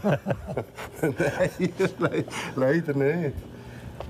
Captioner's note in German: Lachend